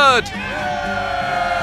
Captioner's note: cheers